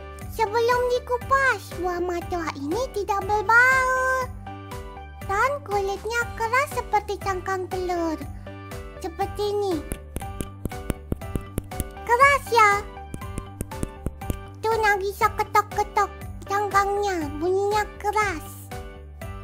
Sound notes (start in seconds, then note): 9.9 tok tok tok; 13.1 still knocking on Matoa shell